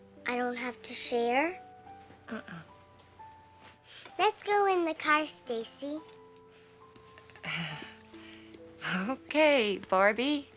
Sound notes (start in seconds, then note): 7.2 chuckles softly